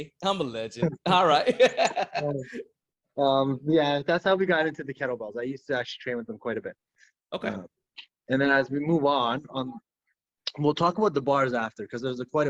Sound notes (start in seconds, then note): 1.6 laughing